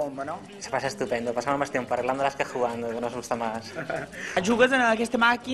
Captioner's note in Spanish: risas